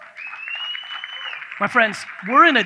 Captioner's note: audience cheers